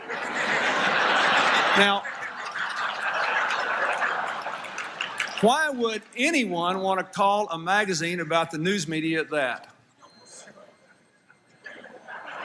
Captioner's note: laughter